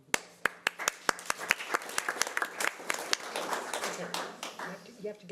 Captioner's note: audience applause